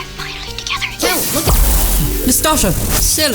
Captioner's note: zap